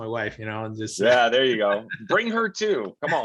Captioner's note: chuckling